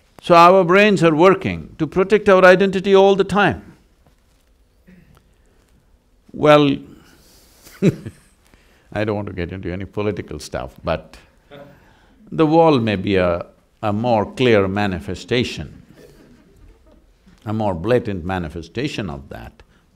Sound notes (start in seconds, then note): 6.8 laughs